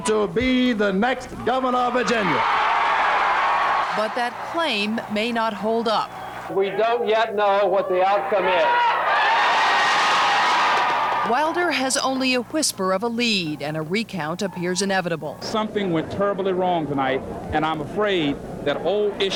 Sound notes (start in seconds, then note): 1.5 audience applauding; 2.9 audience cheering